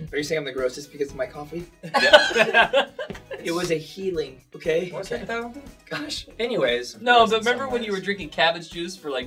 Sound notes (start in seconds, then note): 1.8 they laugh